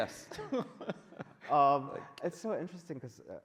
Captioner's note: men laughing